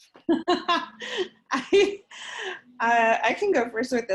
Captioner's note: laughing